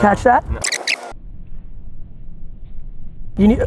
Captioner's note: tape rewinding